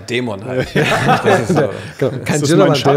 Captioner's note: Gelächter